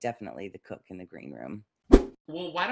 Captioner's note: whoosh